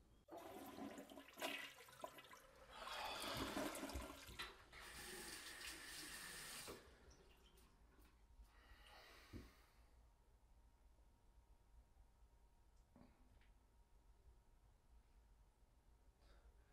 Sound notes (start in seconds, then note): 0.2 toilet flushes; 4.8 water runs